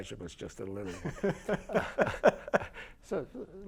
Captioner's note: laughter